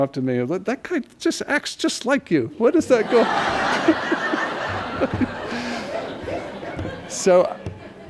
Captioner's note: laughter